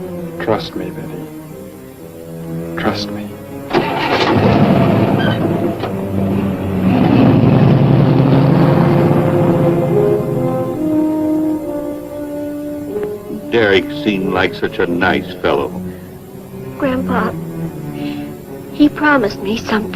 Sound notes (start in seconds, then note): 5.0 car engine starts; 9.5 car rumbling